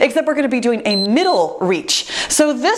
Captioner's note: timer beeps